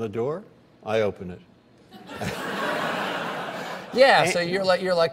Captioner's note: laughter